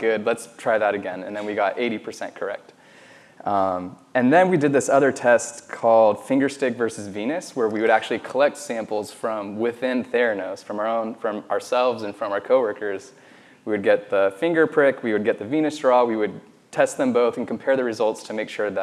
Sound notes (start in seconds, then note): none